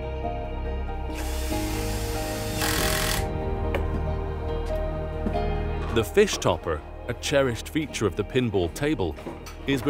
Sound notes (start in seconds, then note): 0.2 gentle music continues; 1.1 screwdriver whirring